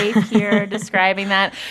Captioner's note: laughter